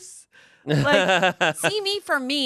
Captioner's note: laughs